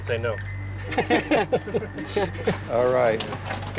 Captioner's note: laughter